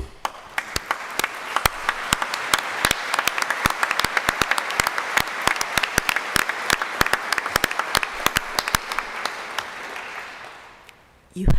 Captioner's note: applause